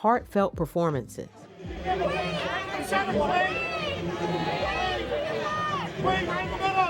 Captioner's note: crowd yells